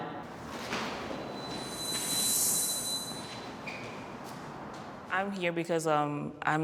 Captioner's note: high-pitched squeal